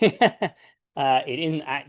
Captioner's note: laughs